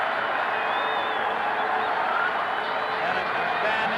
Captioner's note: crowd cheering